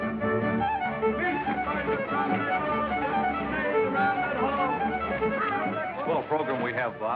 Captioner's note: hollering